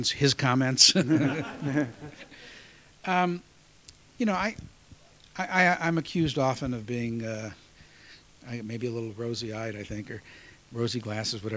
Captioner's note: laughter